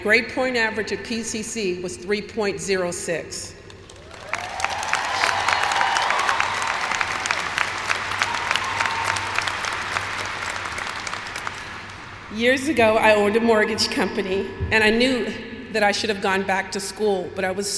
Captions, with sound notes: MY GRADE POINT AVERAGE AT PCC WAS 3.06. [CHEERS AND APPLAUSE] YEARS AGO I OWNED A MORTGAGE COMPANY AND I KNEW THAT I SHOULD HAVE GONE BACK TO SCHOOL